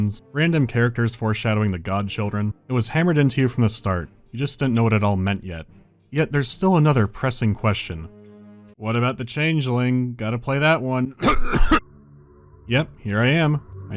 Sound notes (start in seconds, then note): 11.2 cough cough